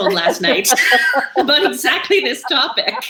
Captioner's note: laughing